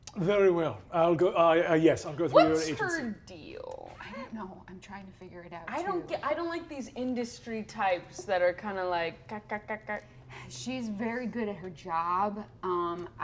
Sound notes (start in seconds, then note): 9.7 chatters